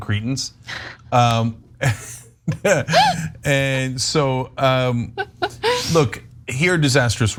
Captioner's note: laugh